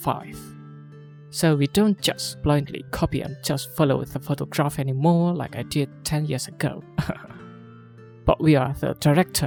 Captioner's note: chuckles